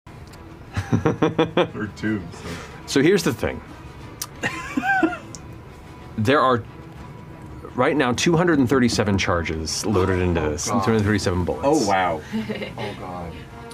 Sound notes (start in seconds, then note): 4.4 laughs